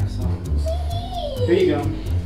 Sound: happily squealing

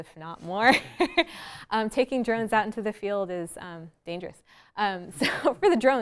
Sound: laughs

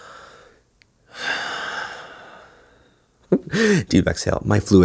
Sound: sighs

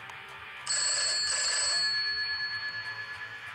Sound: phone rings

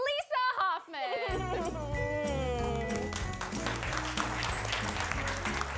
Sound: audience applauding

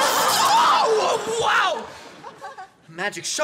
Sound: zaps; shrieks

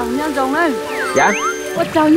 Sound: speaking ethnic language

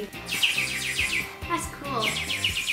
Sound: bird whistling

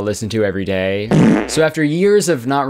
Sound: farting Sound effect

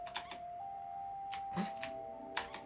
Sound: snorts

